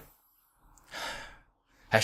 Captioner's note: sigh